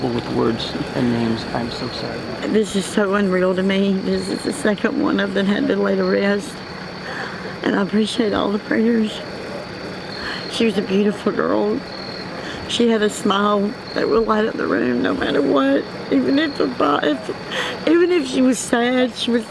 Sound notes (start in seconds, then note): 16.7 mother mumbling